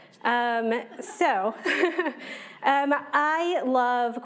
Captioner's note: all laughing